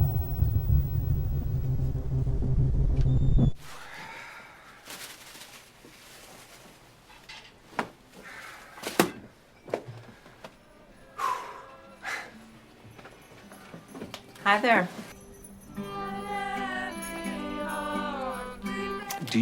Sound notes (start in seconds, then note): 4.8 bag rustles; 11.3 Horatio sighs; 16.3 group singing